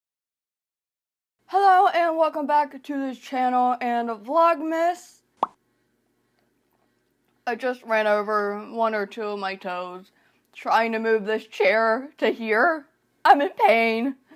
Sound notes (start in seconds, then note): 5.4 pop